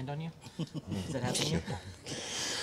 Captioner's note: chuckling